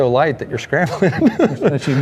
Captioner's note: laughs